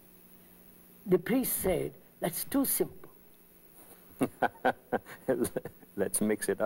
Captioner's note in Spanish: Risas